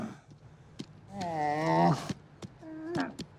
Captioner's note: camel grunt; camel groans